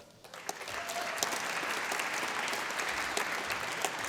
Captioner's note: applause